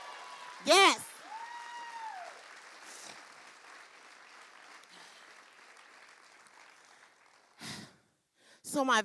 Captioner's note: cheering; cheering continues